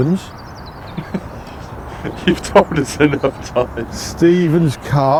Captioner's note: laughs